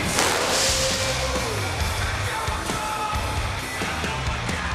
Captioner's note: fireworks popping